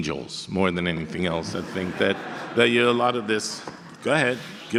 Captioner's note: audience laughter